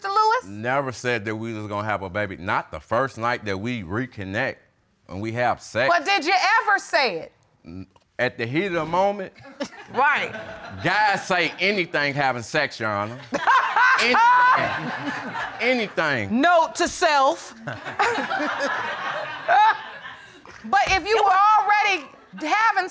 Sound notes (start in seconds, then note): 13.1 audience laughing; 13.2 laughs loudly; 17.6 all laughing